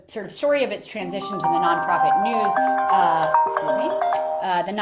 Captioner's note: notification chiming